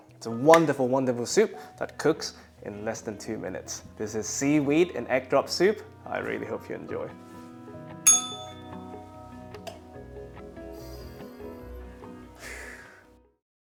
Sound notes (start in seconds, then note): 8.0 bell rings; 12.4 sighs